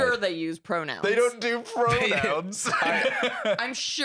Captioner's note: laughs